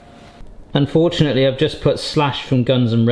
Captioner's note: none